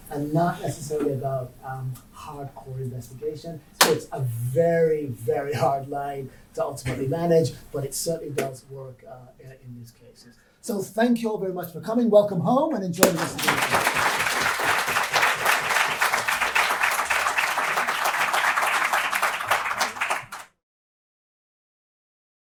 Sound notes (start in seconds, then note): 13.0 audience applauding